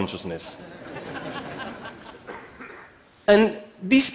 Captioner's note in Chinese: Laughter; 笑聲